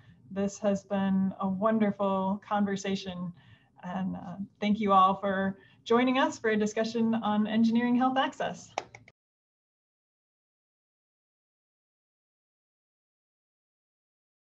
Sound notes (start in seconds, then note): 8.7 claps